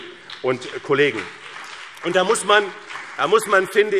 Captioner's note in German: Beifall BÜNDNIS 90/DIE GRÜNEN und vereinzelt CDU